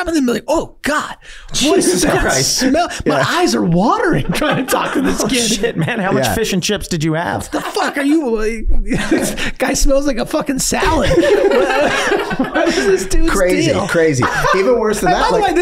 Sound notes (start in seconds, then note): 10.7 all laughing